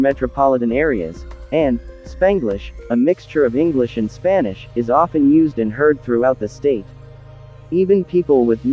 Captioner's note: a mixture of English and Spanish